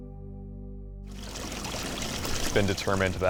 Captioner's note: rolling waves